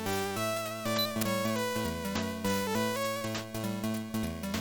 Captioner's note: click click